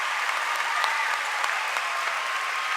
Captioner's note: cheering and applause